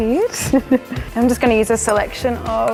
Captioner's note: laughs